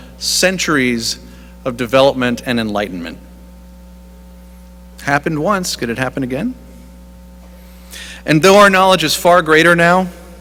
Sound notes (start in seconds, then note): none